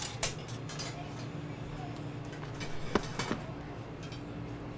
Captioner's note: customers chattering